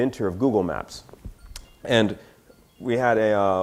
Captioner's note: phone rings